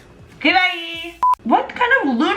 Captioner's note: beeping